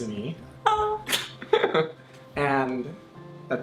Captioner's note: laughs